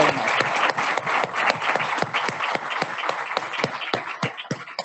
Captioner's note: audience applauding